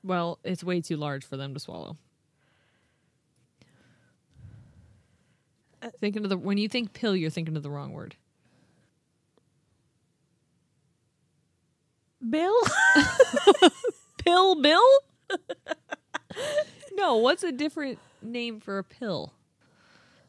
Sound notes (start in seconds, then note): 12.6 laughing